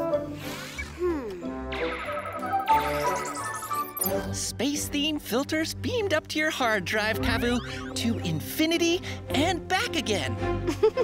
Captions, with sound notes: - Hm. (computer whirring) (upbeat music) Space-themed filters beamed up to your hard drive, Cavu. To infinity and back again.